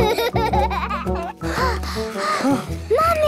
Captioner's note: children giggling; panting